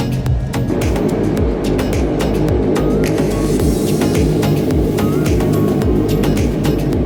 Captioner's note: engines hum